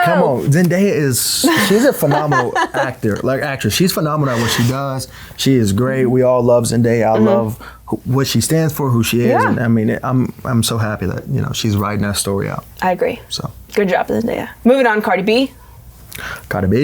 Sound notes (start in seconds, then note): 1.4 laughing